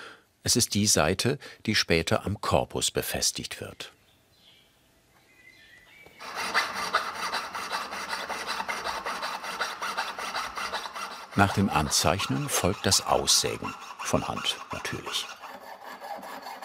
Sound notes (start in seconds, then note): 3.5 birds chirping; 6.3 sawing noises